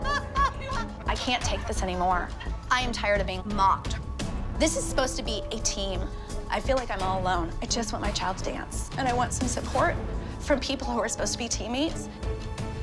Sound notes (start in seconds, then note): none